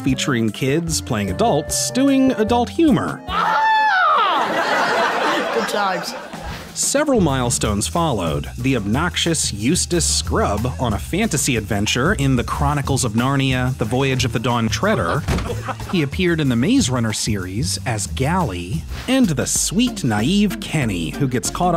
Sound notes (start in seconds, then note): 3.2 screams; 4.0 laughter